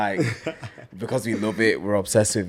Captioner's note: laughs